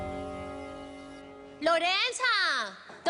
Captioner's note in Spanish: Suena el timbre